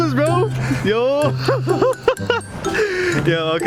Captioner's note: laughter